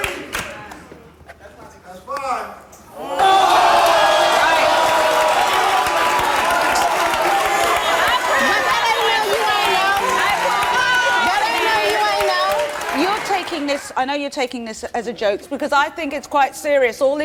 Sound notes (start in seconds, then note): 3.1 audience yelling